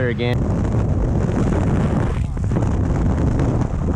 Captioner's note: wind blowing